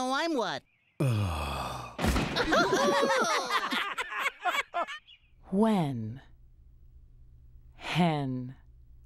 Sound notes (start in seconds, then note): 1.0 groans; 2.1 all laughing